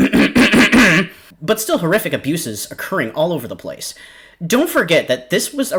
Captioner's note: clears throat conspicuously